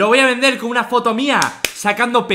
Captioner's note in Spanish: clap clap